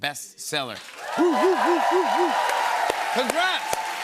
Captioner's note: cheers and applause